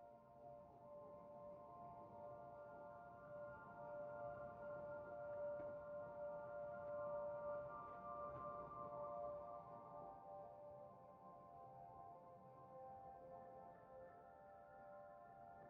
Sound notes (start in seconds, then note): none